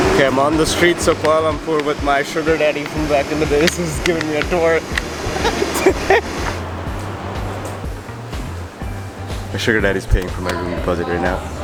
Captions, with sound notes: Okay, I’m on the streets of Kuala Lumpur with my sugar daddy from back in the days, who’s giving me a tour. (laughs) My suger daddy is paying for my room deposit right now.